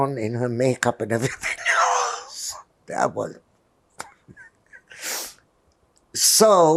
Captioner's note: laughing